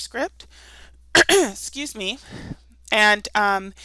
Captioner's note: coughing